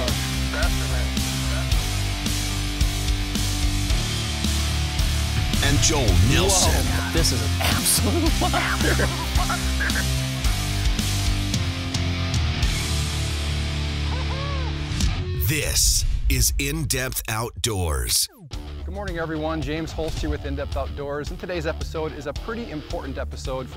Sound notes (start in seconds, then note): 0.3 heavy rock music; 5.8 voiceover; 10.7 heavy rock music; 15.7 voiceover